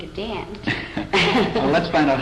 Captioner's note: laughter